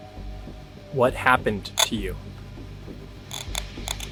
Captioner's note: static crackling